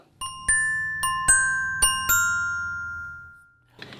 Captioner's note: chimes